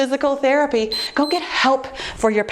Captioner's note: timer beeps